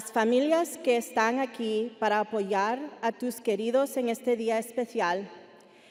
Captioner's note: speaking Spanish continues